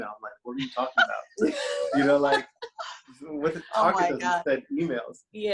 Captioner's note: laughs